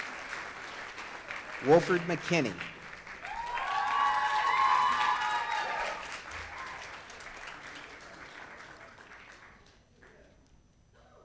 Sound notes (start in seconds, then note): 3.1 audience cheers